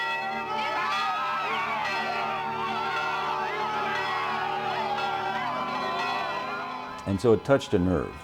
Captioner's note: crowd cheering